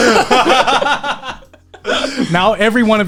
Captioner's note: laughing loudly